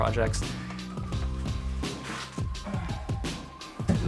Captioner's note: groaning